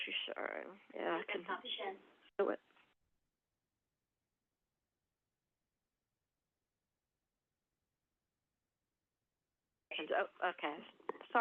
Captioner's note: silence